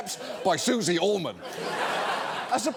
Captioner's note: audience laughs